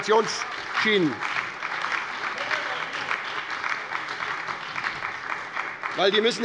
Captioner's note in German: Lebhafter Beifall bei der SPD, der LINKEN und der FDP